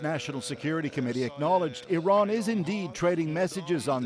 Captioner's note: speaking alternate language